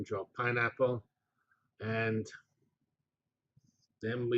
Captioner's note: pause